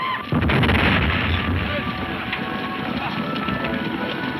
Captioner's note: men shouting; explosion booming